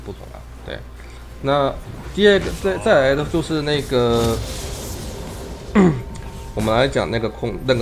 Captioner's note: meaningless murmuring